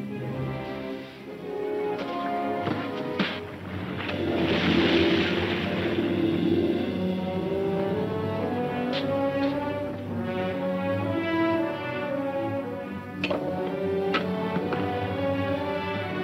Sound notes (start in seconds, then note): 3.7 splashing; 12.9 clattering